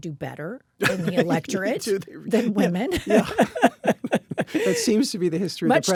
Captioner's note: laugh